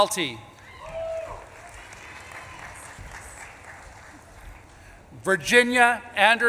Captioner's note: audience claps and cheers